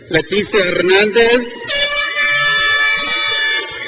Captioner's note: crowd cheers